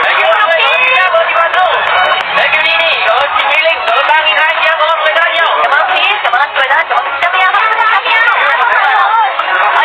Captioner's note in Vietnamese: Vỗ tay